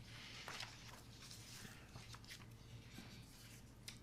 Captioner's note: papers rustling